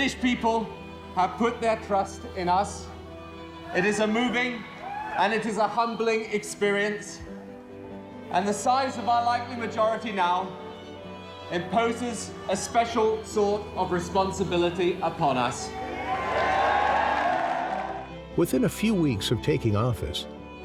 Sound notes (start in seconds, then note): 15.6 audience cheering